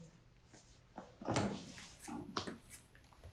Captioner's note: walking Sound